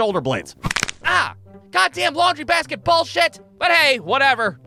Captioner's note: crack